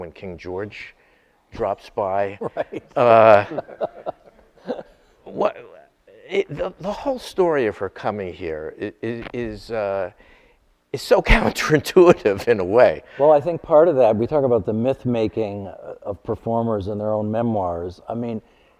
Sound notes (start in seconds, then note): 2.3 chuckles